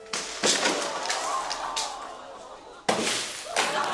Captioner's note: wistful music; audience exclaims, groans; laughter, groans